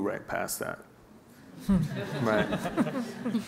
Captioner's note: laughing